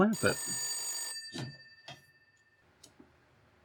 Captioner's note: phone rings and show up